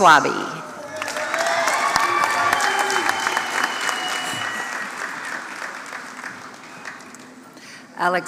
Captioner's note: applause